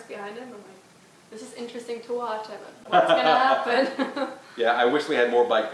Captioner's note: laughs